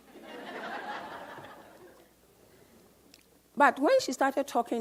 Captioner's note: audience laughs